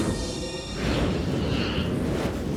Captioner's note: wind howling; fire roaring